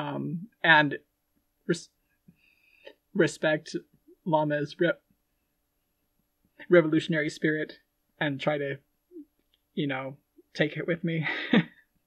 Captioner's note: laughing